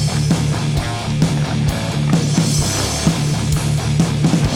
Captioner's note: footsteps thumping